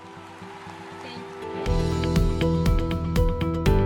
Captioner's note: applause